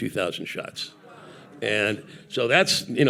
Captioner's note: audience gasping